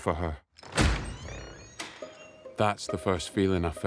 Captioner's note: door clicks; hinges creaking